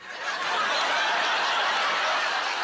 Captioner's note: laughter and applause